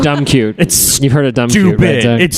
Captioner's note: laughs